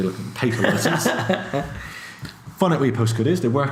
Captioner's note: laughs